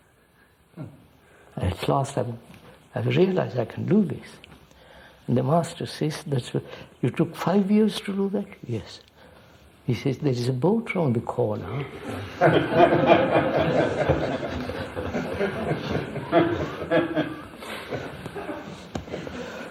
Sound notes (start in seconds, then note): 11.4 laughs; 12.0 laughter